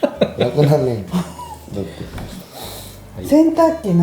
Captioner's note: laughs